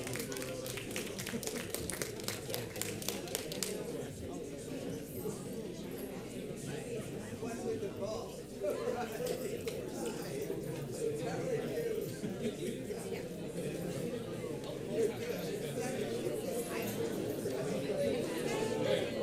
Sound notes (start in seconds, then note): 0.0 audience applauding; 3.7 audience chattering